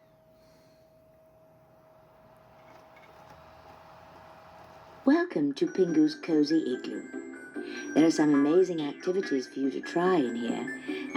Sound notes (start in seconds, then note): 1.5 laptop dvd drive spinning